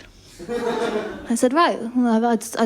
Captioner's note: laughter